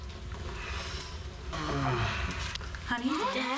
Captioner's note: moans